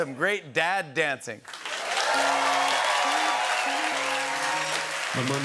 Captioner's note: cheering, whistling, and applause